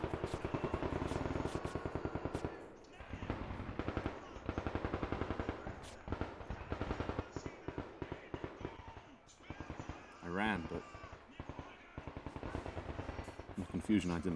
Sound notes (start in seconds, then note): 0.2 repeated gunshots; 3.5 agonized screams and shouting; 10.6 gunfire continues; 11.5 shouting in German